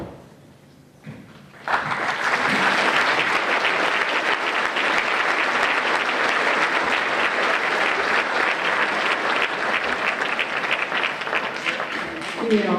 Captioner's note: applause